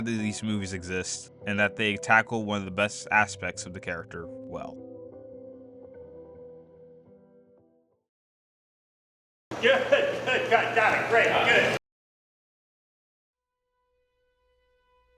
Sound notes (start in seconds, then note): 9.6 laughs